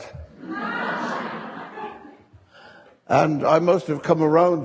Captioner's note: audience laughing